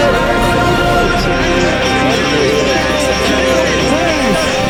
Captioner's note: outrage from crowd